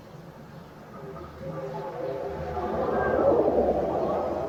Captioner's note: sound of pigeons cooing nearby